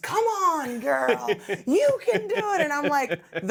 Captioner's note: laughing